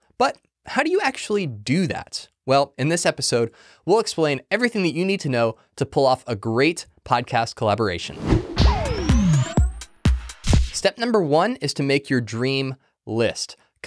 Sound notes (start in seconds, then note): 8.1 air whooshing; 8.5 gentle upbeat music